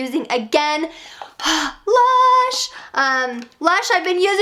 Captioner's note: sighs